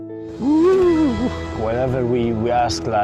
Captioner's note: whooping